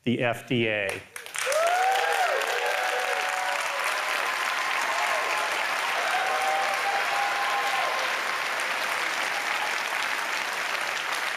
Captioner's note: applause